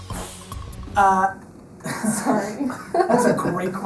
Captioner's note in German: lacht